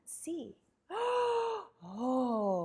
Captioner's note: gasps